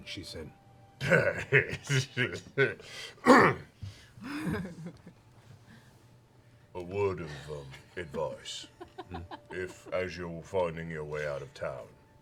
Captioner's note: laughs